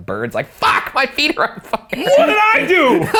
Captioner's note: laughing